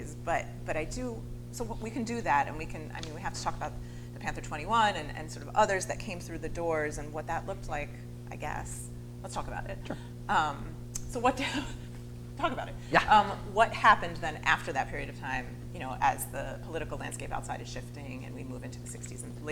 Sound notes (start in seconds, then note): 12.7 laughs